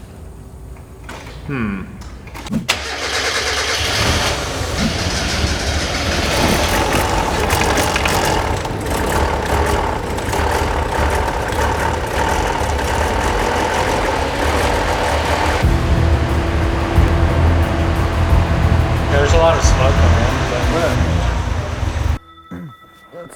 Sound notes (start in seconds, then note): 3.2 car engine revving; 15.8 upbeat music